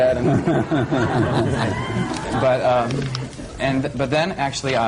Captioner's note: laughter